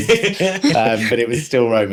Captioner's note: laughing